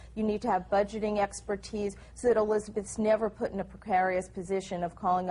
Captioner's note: none